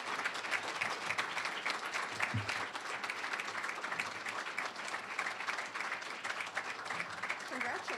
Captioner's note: applause